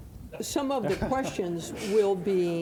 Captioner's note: audience laughing